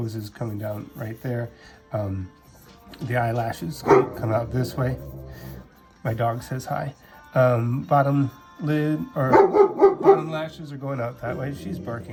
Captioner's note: grrr; woof!